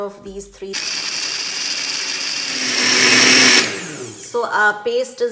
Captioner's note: machine whirring